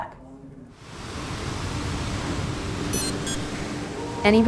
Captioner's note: waves rolling